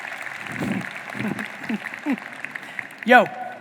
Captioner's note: audience applauding; chuckling